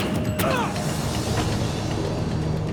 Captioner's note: screaming continues